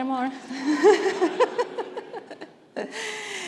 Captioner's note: laughs